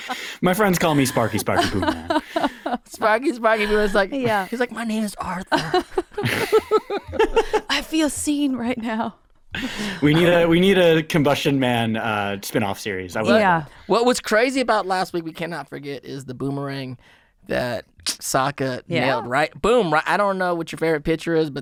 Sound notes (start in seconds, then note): 5.5 all laughing